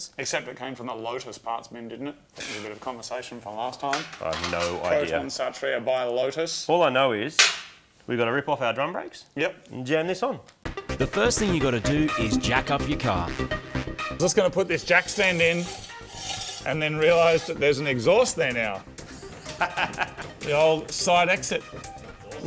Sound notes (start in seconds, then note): 2.3 scoffs; 14.9 scraping; 19.1 laughs